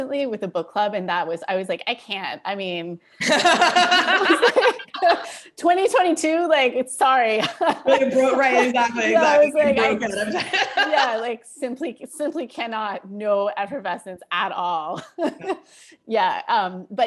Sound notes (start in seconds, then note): 3.2 laughter